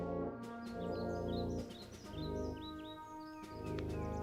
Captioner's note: birds chirping